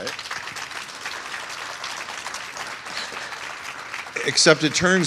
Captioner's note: applause